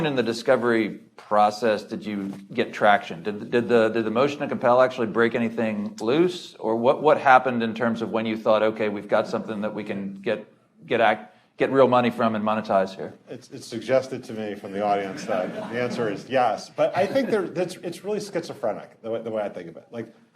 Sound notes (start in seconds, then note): 14.9 audience laughing